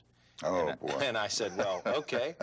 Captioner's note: laughing